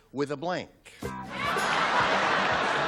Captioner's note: upbeat music; laughter